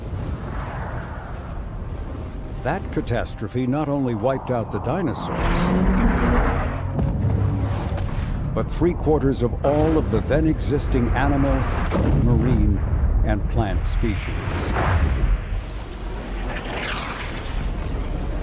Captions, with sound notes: (asteroid whooshing) That catastrophe not only wiped out the dinosaurs... (asteroid crashes) but three-quarters of all of the then existing animal, marine, and plant species.